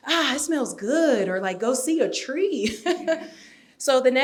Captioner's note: laughs